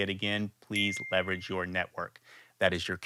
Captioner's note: bell chiming